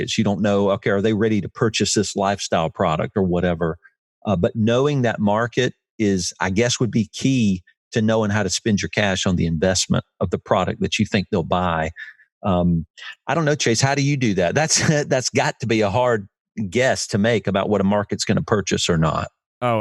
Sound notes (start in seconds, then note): 14.9 laughs